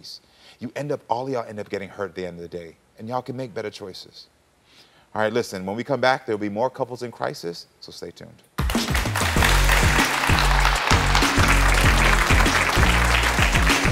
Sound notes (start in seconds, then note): 8.6 audience clapping; 8.6 upbeat music